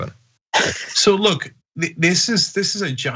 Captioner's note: laugh